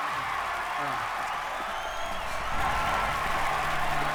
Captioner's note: crowd cheering